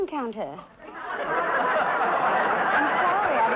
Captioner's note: audience laughter